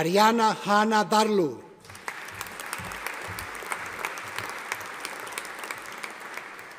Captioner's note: audience applauding